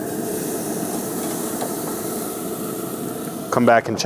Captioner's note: steaks sizzling